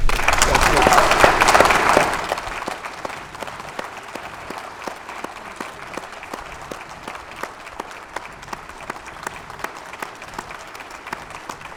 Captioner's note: applause